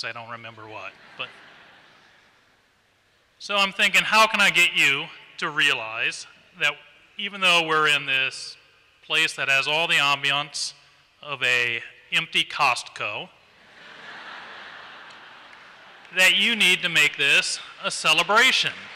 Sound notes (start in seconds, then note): 0.8 laughter; 13.6 laughter